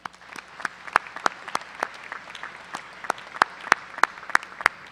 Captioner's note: applause